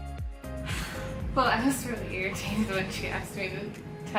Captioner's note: sighs